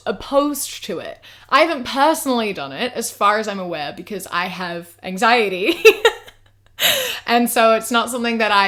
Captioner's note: laughs